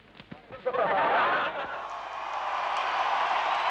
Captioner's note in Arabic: ضحك; تصفيق الجمهور